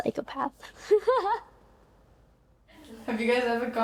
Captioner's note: laughing